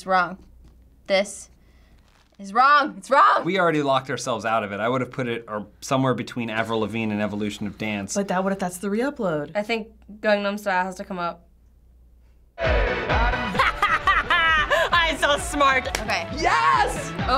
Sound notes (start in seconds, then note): 13.4 laughs